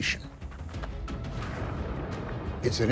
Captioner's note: thunder crashes